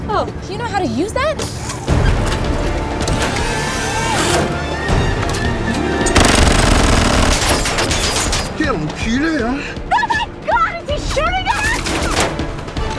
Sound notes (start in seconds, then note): 9.0 in french